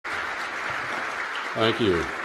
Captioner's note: applause